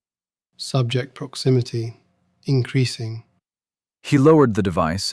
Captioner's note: quiet, clinical